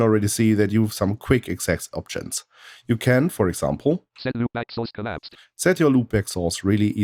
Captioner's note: automated voice